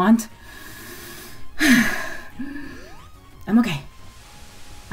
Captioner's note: gasps deeply and hyperventilates